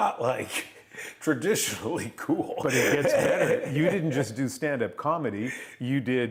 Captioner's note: laughter